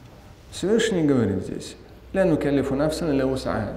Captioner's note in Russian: говорит на арабском